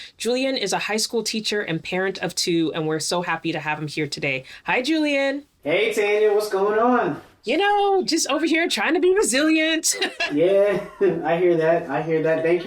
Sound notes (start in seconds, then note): 9.8 laughs